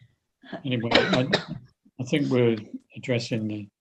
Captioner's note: coughs